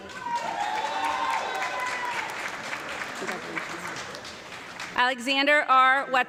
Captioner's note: audience clapping and cheering